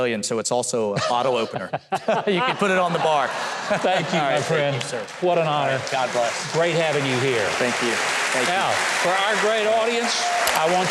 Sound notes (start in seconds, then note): 1.0 Huckabee and Mike chuckle; 1.0 audience laugh; 6.6 audience clapping